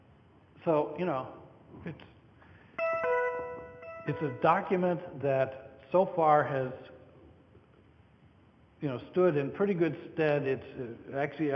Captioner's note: computer tone